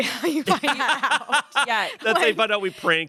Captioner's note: everyone laughs